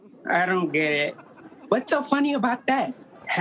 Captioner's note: audience laughing